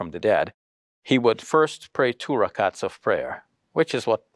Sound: speaks foreign language

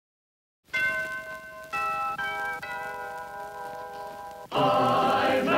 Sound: A bell rings; choir singing

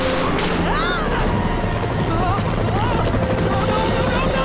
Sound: screaming

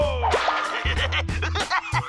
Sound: laughing

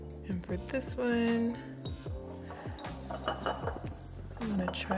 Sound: glass thudding

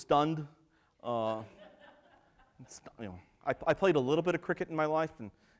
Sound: laughter

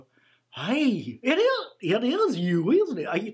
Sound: none

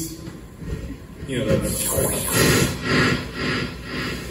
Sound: imitates squeaky static

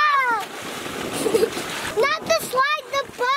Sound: water splash

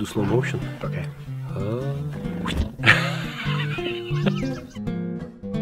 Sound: laughs

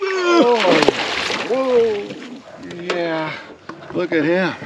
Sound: fish splashing

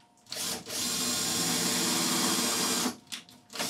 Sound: drill buzzing

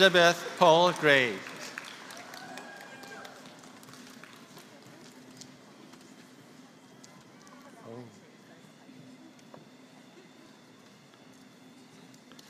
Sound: applause

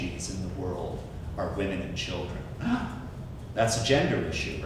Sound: gasps

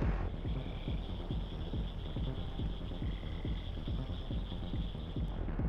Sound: outdoor insects chirping

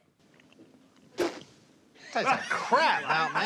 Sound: spits; laughs

